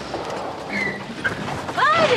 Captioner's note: tires screeching